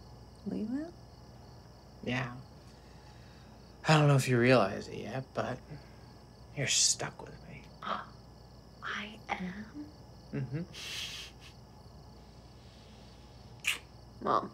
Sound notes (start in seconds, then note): 8.3 gasps; 10.3 Sam chuckles